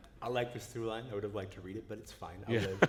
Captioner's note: laughter